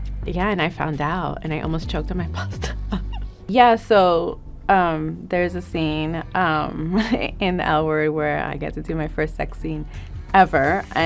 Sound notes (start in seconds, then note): 2.3 Jillian laughing